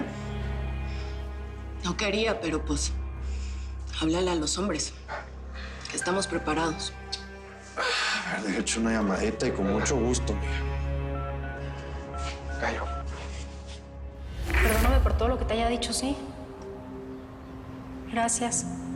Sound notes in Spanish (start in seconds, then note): 12.1 Sonido al marcar